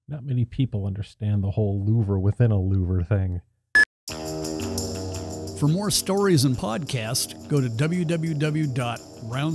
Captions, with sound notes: Not many people understand the whole louver within a louver thing (beep). (upbeat music) For more stories and podcasts, go to www.roundsixpod.com.